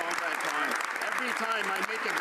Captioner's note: some Applause